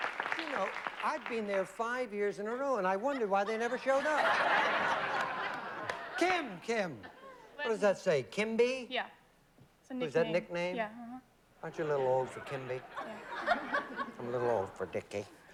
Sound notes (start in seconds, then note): 3.4 laughter